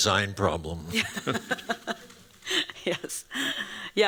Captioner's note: laughter